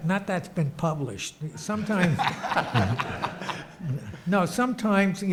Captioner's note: audience laughs